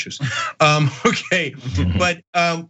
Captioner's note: laugh